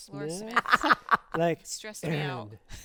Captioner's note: laughs